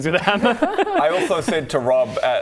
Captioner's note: significantly less chaotic laughter